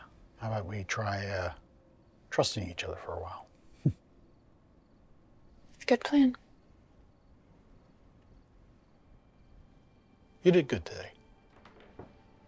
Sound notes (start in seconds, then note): 3.3 laughs; 8.8 thoughtful music